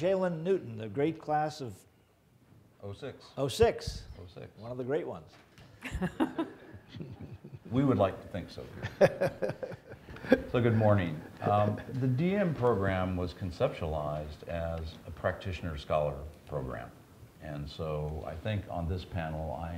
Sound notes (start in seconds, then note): 5.8 laughing; 8.7 chuckling